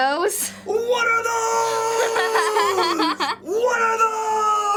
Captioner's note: laughs